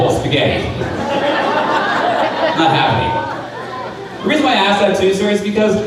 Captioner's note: crowd laughing